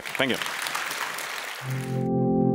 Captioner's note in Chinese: 鼓掌